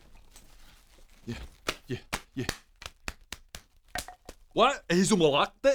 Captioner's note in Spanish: golpe; golpegolpegolpe... golpe